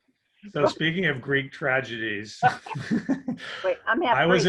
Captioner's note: laughs